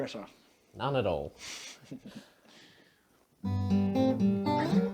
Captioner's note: chuckles